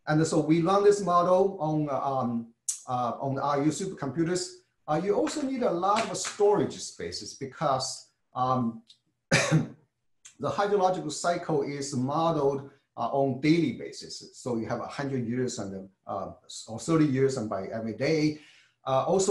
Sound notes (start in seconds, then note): 9.3 cough